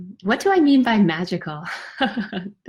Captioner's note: laughs